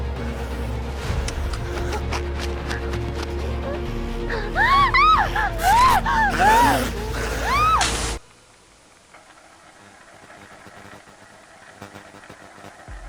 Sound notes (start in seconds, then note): 0.0 tense suspenseful music; 0.1 creature snarling; 4.4 Kira screams; 5.4 creature snarling; 7.5 Kira screams; 7.5 static whooshes